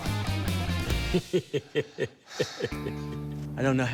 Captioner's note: laughs